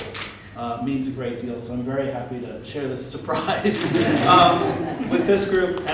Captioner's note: laughter